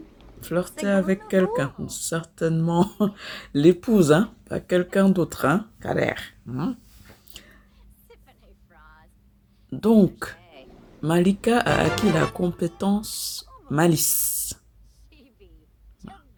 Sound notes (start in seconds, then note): 7.3 laughs